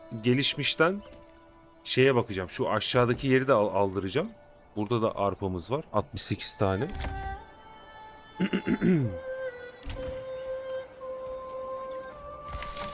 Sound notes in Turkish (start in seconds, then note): 8.4 boğazını temizler; 8.4 öksürme